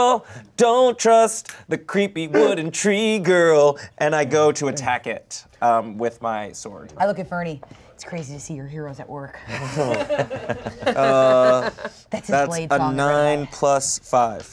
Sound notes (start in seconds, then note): 9.5 everyone laughs